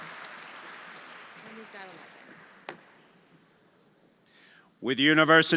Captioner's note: audience applauding; audience cheering